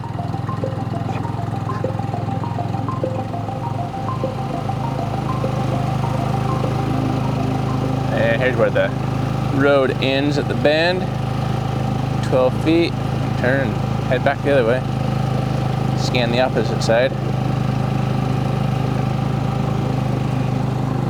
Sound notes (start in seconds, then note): 0.2 motor revving; 0.2 suspenseful music; 17.3 motor revving